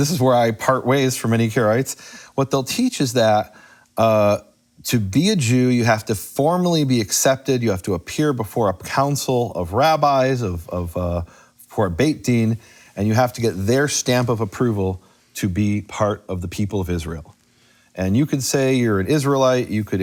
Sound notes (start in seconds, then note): 10.5 speaks in foreign language